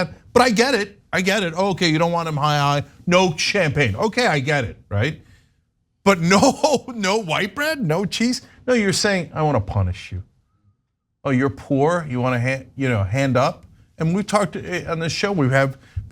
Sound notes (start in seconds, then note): 6.2 laugh